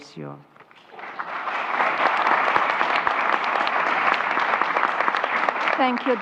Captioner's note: applause